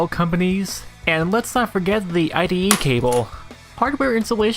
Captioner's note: slams cable on desk